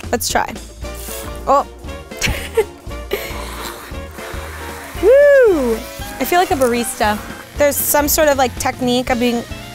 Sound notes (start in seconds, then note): 2.2 laughing